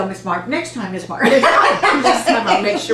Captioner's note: laughter